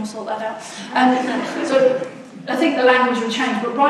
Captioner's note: audience laughs